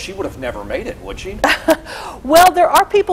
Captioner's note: chuckles